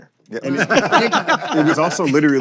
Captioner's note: laughter